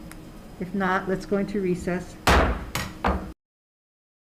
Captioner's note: gavel slams